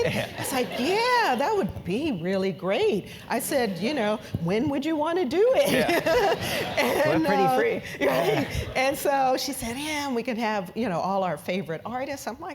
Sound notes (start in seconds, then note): 5.5 laugh